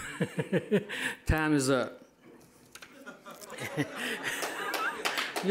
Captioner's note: all laughing